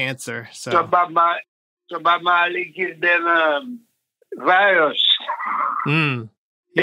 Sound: laughs

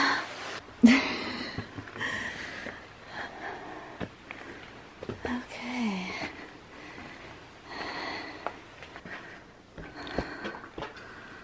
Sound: footsteps

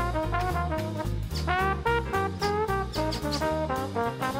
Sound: squeaking

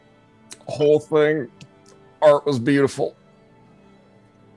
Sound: strained

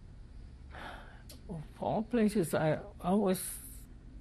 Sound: sighs

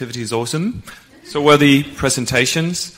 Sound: laughter

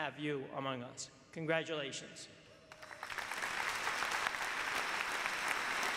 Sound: applause

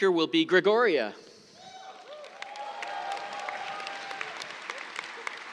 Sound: cheers, applause

